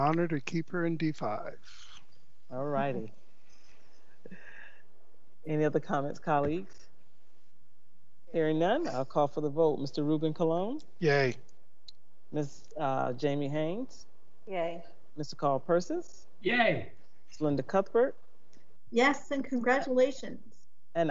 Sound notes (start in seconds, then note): 3.8 members chuckling